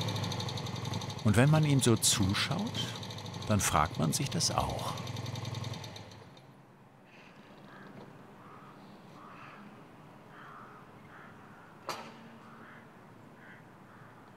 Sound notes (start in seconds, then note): 5.3 engine shuts off; 7.0 distant crow calls